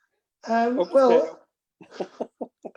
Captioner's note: laughter